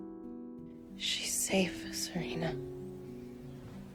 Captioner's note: voiceover